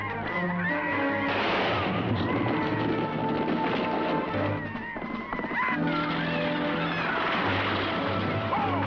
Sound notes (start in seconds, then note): 1.2 gun firing